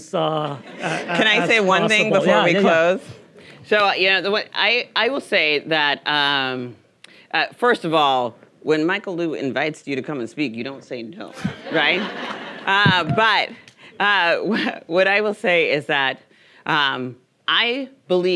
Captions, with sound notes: (audience laughing) As possible. - Can I say one thing before we close? I will say that, first of all, when Michael Lu invites you to come and speak, you don't say no. Right? (audience laughing) But what I will say is that I believe fundamentally